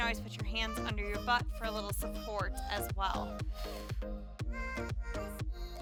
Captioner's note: exhales